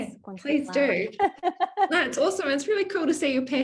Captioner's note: laughing